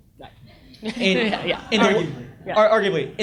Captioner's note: audience laughs